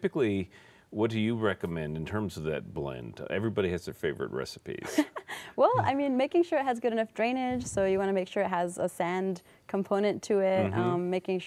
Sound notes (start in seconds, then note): 4.8 laughter